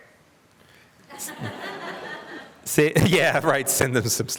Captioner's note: audience laughter